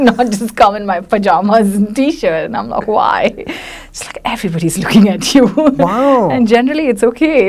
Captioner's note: laughs; laughs